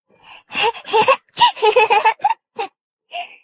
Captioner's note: chuckles